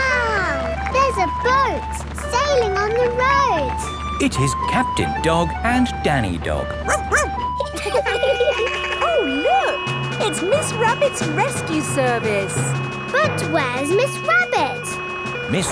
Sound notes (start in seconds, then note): 6.8 barks; 6.8 laughing; 7.9 sirens sounding